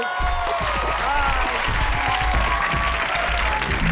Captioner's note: audience applauds